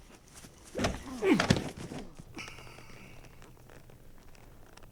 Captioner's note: body thuds